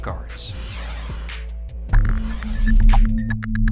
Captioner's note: logo swooshing; gentle foreboding music